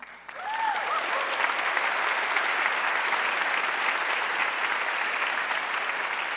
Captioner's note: audience cheering and applauding